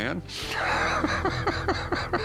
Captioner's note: laughs